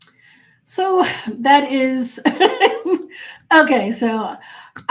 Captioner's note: laughing